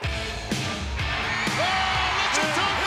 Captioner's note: crowd cheers